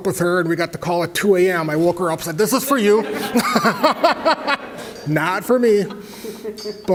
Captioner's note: laugh